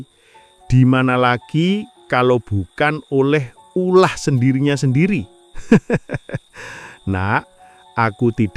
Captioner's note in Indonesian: tertawa